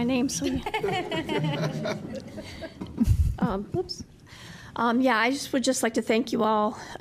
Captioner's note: laughter